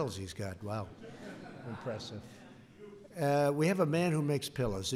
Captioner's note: laughter